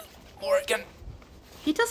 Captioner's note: strangled utterance